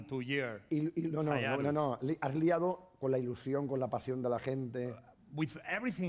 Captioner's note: speaking spanish